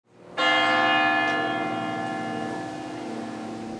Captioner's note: bell rings